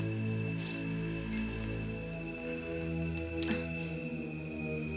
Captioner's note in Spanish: gravador apita